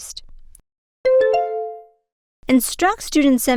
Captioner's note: bell ding